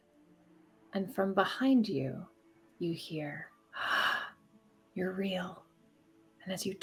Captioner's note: gasps